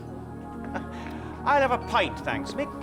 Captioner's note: laughing